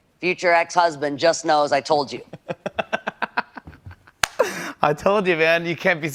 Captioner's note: laughs